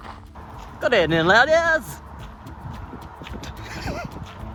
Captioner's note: over the top posh voice